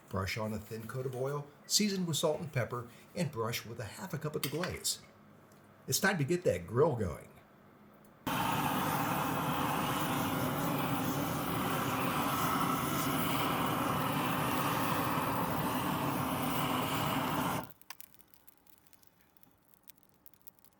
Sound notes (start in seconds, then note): 8.2 fire whooshing